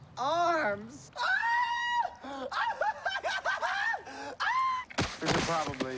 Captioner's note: panicky scream